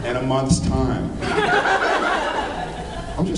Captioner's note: laughs